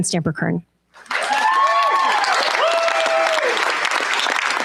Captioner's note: cheers, applause